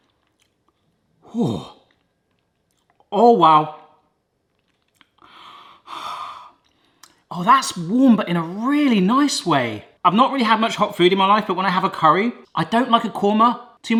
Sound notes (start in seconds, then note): 5.2 breathes deeply